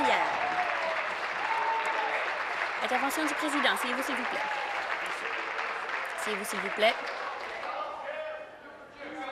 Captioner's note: applause